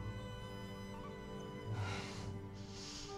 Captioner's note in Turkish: Nefes sesi